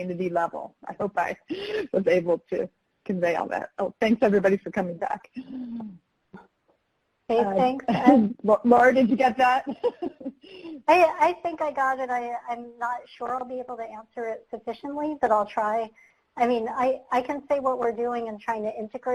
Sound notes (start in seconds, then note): 9.6 chuckles